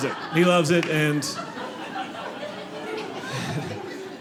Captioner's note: audience laughing